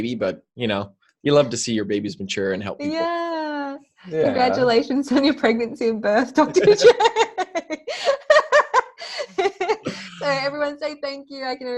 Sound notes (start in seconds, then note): 6.4 laughter